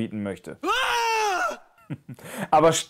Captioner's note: scream